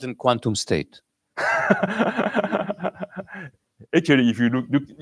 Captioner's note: laughs